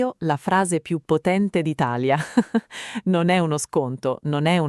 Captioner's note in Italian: Haha